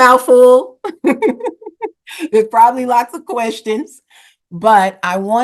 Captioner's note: laughter